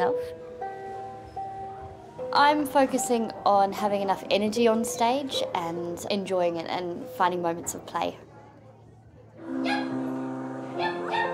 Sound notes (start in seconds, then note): 9.6 yipping